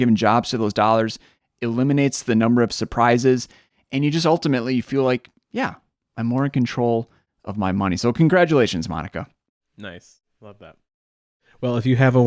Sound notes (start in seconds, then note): none